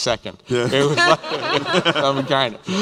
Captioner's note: laughter